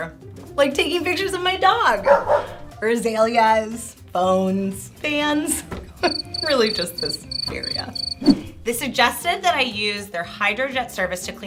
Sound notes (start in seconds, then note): 2.0 barking sound; 6.0 cricket sounds